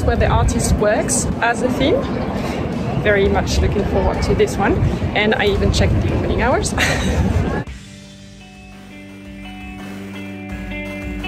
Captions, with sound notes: where the artist works as the theme. Very much looking forward to this one. And I even checked the opening hours. (laughs) (gentle music)